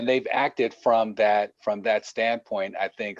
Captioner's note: distorted audio